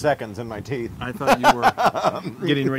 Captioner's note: laugh